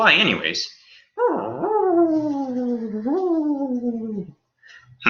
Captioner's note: otherworldly humming